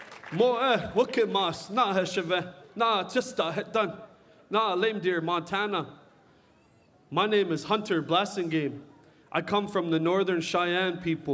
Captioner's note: cheering and applause